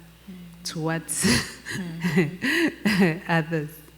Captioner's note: laughs